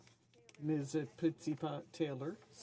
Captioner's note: speaking French